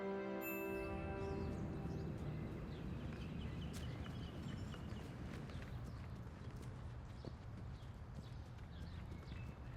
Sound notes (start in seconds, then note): 3.2 birds chirping